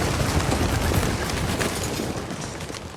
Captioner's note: Luid gefladder